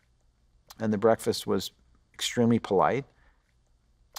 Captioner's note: none